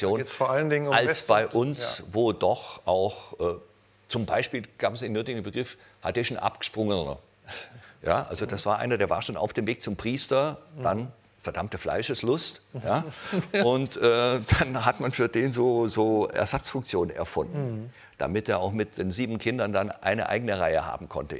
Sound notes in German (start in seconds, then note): 12.8 lacht